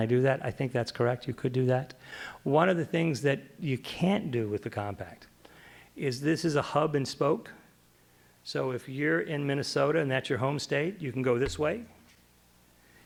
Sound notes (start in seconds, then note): none